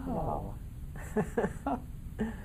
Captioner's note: laughing